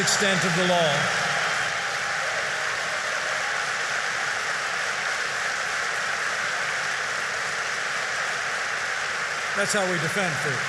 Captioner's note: applause